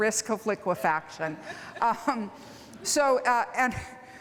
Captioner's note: laughter